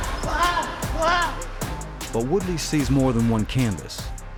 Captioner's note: Woodley exclaiming